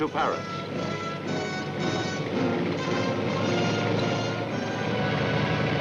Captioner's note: tank engines rumbling